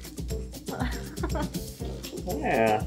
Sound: soft giggling

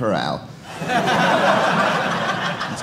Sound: audience laughing

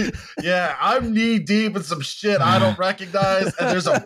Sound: laughter; laughter

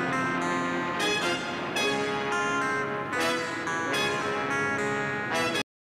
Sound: plane rumbling

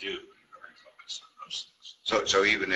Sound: murmurs

